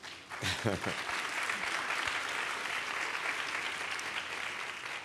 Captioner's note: applause